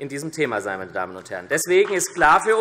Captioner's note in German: Beifall SPD und DIE LINKE